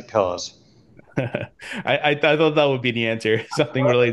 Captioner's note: laughs; laughs